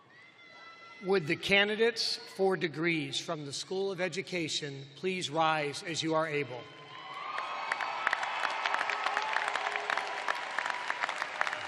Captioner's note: cheers and applause